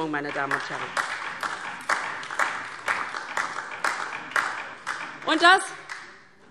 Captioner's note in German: Beifall